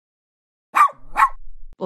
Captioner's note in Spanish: FX - Dog Bark - 01